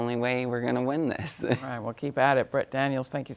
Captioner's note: chuckles